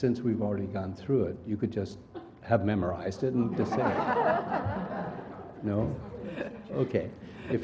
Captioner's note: laugh